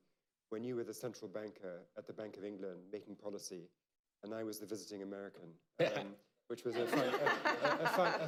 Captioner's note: laughter